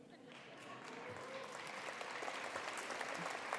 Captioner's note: applause